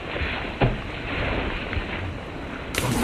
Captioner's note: crashing sounds